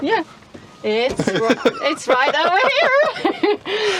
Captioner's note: laughing